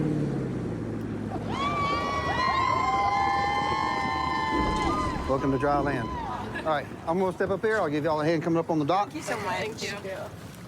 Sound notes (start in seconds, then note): 0.0 laughs; 1.3 cheers